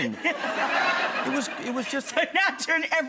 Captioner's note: audience laughter